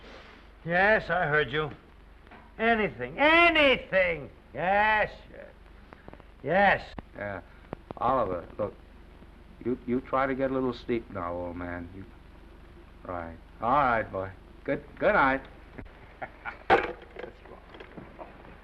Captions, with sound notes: - Yes, I heard you. Anything, ANYTHING! Yes...yes! - Oliver, look... you try to get a little sleep now, old man. Alright, boy. Goodnight! (chuckles). (phone sets down)